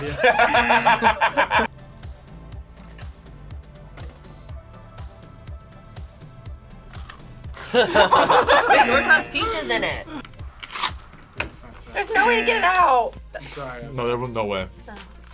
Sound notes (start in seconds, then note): 0.0 laughing; 0.2 klaxon blares; 6.8 pie crunches; 7.5 both laughing; 8.4 klaxon blares; 10.1 pie crunches